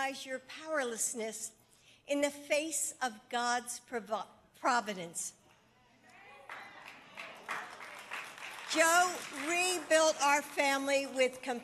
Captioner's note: applause